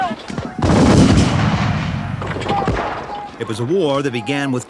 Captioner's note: booming